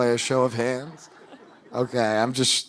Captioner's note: audience laughing